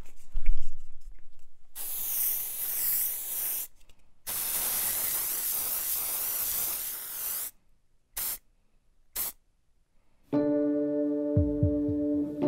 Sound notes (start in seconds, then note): 1.6 sound of aerosol spraying